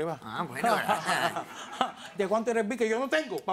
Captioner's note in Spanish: Risas